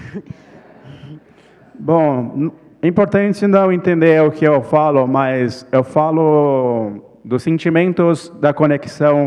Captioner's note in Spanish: ponente habla en portugués